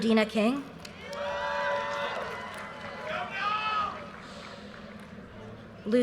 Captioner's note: audience cheers and applause